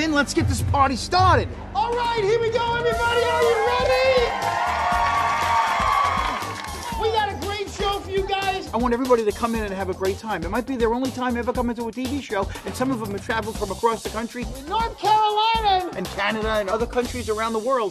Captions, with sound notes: Let's get this party started. All right, here we go everybody are you ready? (cheering and clapping) We got a great show for you guys. I want everybody to come in and have a great time. It might be their only time ever coming to a TV show and some of them have traveled from across the country. North Carolina. And Canada and other countries around the world,